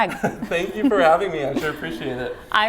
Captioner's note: laughs